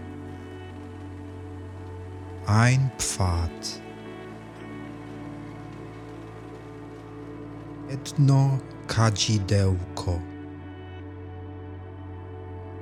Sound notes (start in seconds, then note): 3.9 german